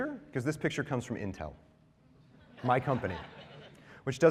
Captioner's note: laughter